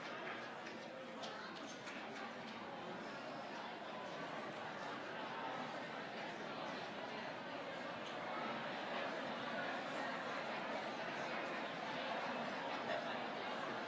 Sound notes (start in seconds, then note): 0.6 crowd chattering